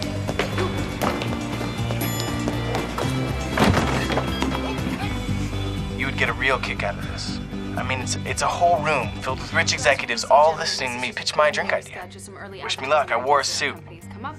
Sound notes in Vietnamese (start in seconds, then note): 5.5 Scat nói trong thư thoại